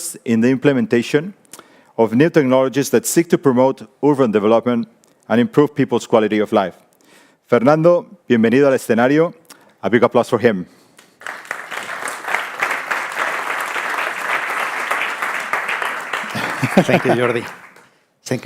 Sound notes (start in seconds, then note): 8.0 speaking in foreign language; 11.1 audience applauding